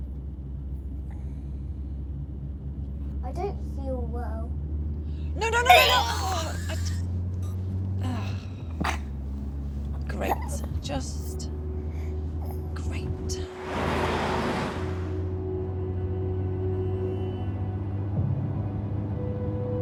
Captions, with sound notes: I don't feel well. - Oh, no, no, no, no! (Oliver retching) Great. Just great. (gentle orchestral music)